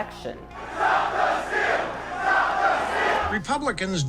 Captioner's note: crowd